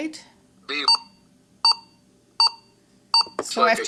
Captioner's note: device beeps four times